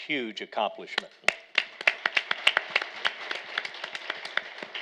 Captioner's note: all applauding